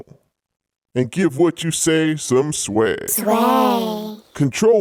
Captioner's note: mouth Voices mimic word